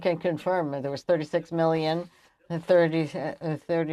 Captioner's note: speaking French